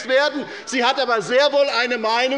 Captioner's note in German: Zurufe der Abg